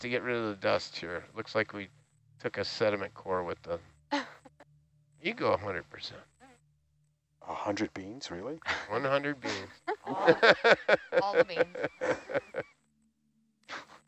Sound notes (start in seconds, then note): 7.5 male Voice; 9.4 laughter